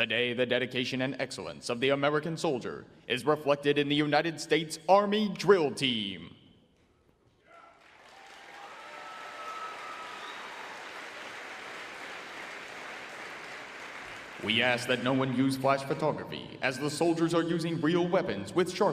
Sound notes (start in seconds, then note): 7.5 audience applauding and cheering